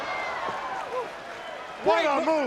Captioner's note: crowd cheering